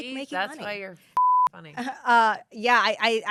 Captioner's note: beep